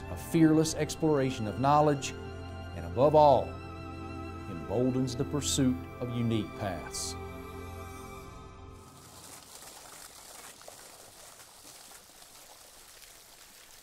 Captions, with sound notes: a fearless exploration of knowledge and above all, emboldens the pursuit of unique paths. (water splashing)